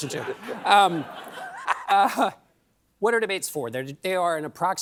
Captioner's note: laughter